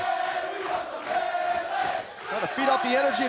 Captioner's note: fans chanting